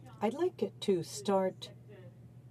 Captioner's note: speaking in French